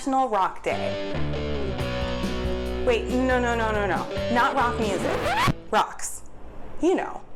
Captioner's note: record scratch